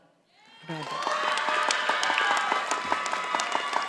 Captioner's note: audience applauding